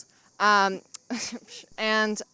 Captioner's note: laughs